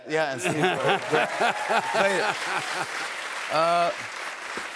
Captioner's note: cheers and applause